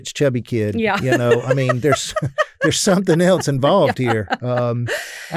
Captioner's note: laughs